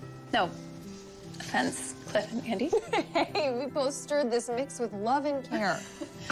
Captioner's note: laughs